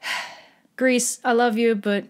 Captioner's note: another exasperated sigh